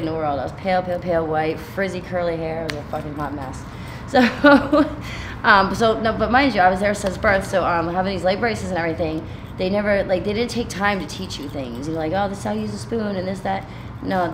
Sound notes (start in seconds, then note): 4.1 laughing